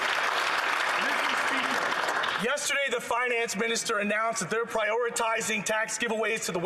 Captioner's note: some Applause